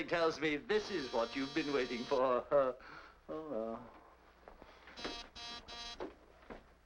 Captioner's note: doorbell buzzing